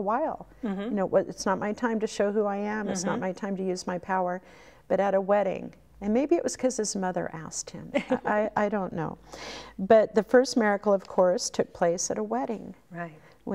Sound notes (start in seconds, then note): 7.9 laughing